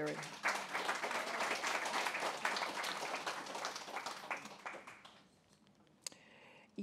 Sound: applause

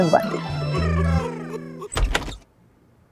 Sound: giggling; door opens

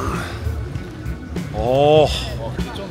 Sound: sighing

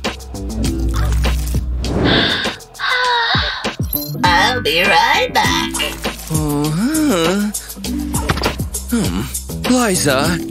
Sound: sad sigh

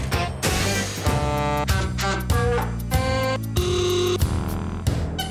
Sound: trucks honking

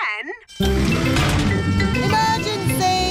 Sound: siren blaring

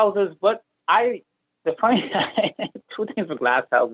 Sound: chuckles

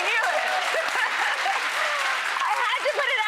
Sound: laughing

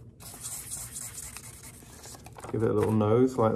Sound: pen squeaking

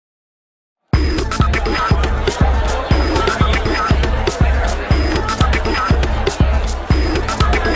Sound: crowd chattering; calm electronic music

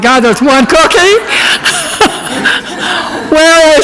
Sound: audience laughs

